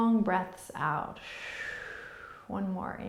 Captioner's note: exhaling